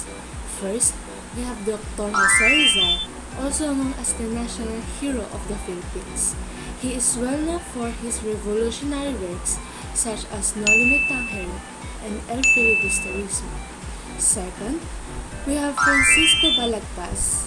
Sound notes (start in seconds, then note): 2.3 sparkling sound